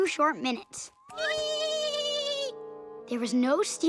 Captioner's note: laughing